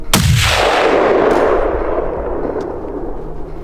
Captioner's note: gun fires